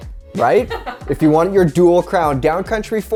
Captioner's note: laughs